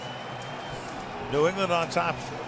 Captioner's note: cheering